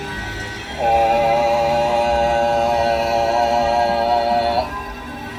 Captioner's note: chanting